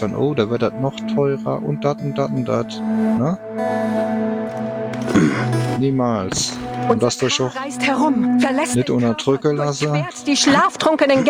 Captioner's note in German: räuspern